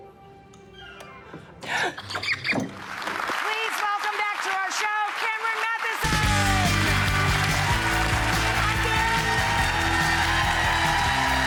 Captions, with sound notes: (playful music) (gasps) (giggles) (audience clapping) Please welcome back to our show, Cameron Mathison! (upbeat music) (audience cheering)